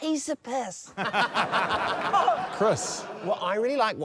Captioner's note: laughter